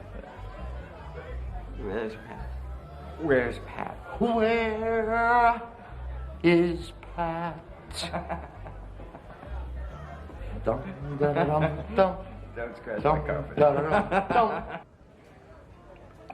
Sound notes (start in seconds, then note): 7.0 Mickey laughs; 11.1 Ray humming cheerfully; 13.5 laughs